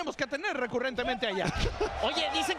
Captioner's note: laugh